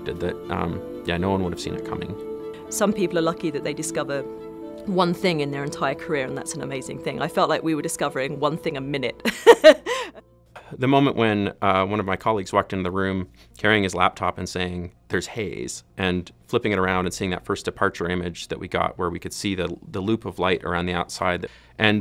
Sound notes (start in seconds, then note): 9.3 laughs